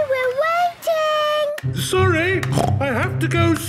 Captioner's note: snorts